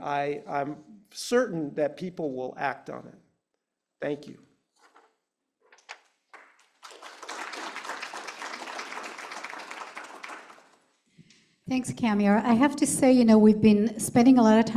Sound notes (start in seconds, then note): 8.9 applause